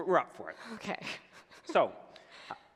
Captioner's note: giggles